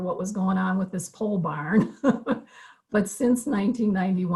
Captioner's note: laughter